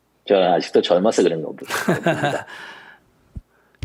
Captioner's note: laughter